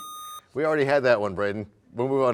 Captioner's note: buzzer sound